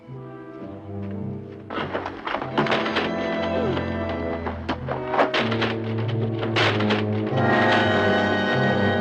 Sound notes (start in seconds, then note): 1.4 wood cracking; 7.0 suspenseful music